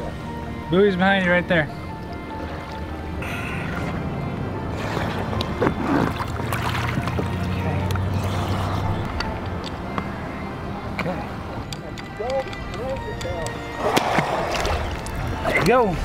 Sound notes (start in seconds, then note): 1.8 water splashes; 3.1 uplifting music; 6.9 water splashes; 13.5 water splashes